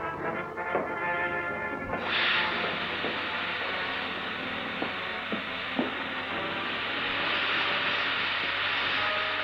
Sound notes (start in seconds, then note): 2.0 air hissing